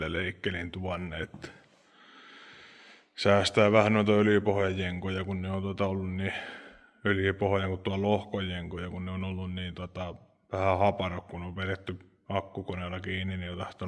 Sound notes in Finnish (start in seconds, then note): 6.3 huokaus